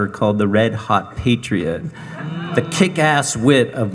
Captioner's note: audience chuckling